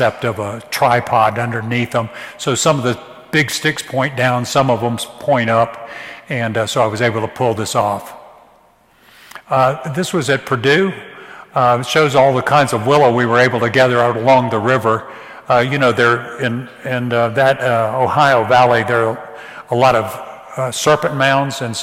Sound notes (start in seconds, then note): none